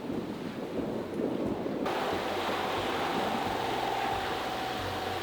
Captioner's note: boat engine whirring